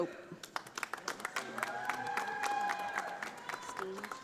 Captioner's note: audience applauding